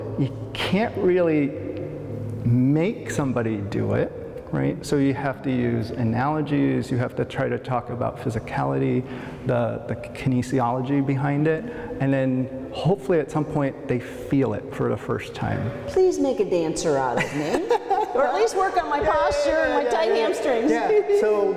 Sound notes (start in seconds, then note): 18.7 laughter